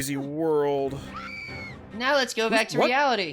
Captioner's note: actual human woman screaming